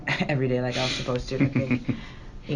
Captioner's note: laughing